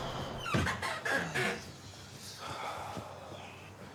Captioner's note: door squeaking